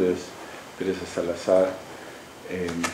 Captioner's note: speaking spanish